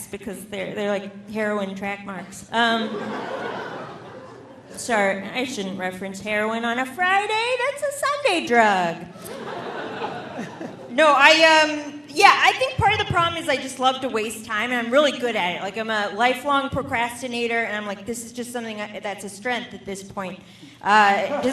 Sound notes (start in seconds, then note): 2.7 audience laughing; 9.1 audience laughing